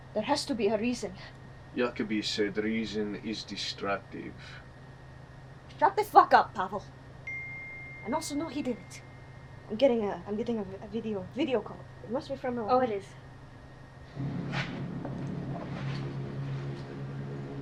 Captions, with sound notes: There has to be a reason. - Yanukovych said the reason is destructive. - Shut the fuck up, Pavel! [phone notification beeps] And also, no, he did it. I'm getting a video call. It must be from Milana. [suspenseful music]